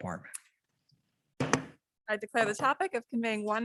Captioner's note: gavel bangs